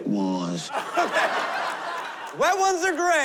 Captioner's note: laughter